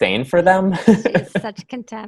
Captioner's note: laughs